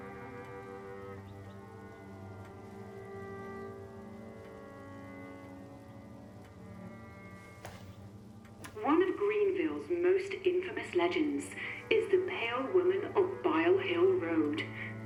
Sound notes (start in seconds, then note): 0.9 somber music continues; 8.6 button clicks